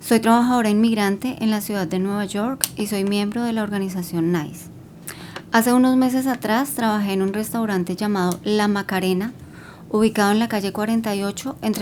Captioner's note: speaking spanish